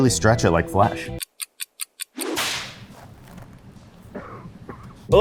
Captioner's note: clock ticking